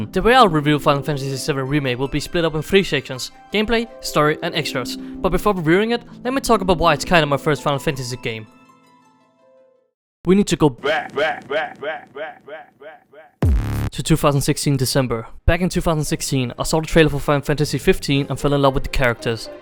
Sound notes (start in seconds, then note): 10.8 echo